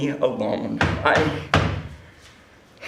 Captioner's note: knocking